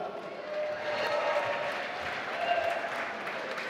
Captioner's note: applause